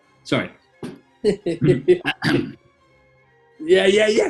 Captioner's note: chuckling; clears throat